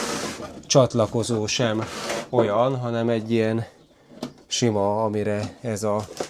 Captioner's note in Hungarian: horkantás